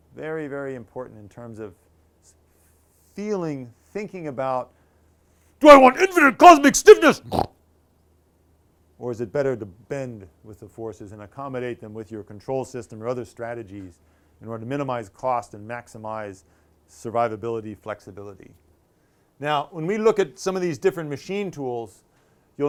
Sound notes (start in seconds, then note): 8.3 grunts